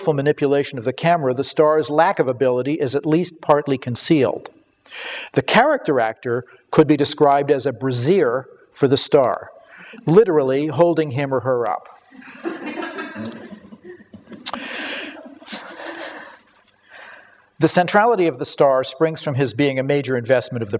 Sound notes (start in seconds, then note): 12.1 audience laughter